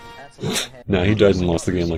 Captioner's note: snirk